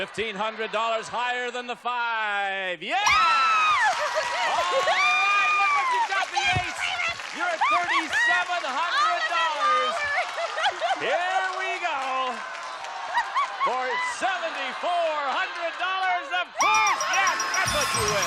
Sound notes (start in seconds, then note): 3.5 screams; 4.9 applause